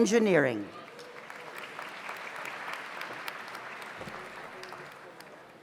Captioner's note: audience applauds